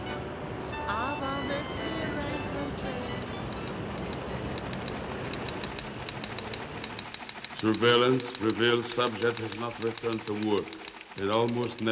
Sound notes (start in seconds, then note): 3.5 typewriter keys clacking